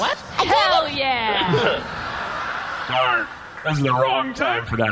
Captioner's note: excited